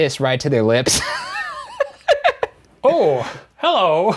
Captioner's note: laughing